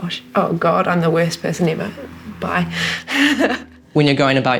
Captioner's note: laughs